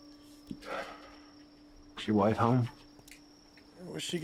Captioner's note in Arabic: تنهدات